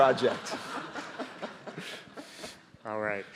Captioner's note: audience laughing